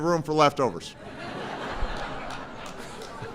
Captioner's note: laughter